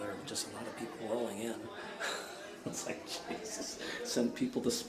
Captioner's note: laughs